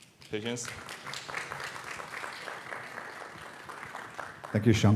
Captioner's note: applause